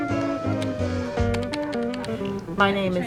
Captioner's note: keyboard keys typing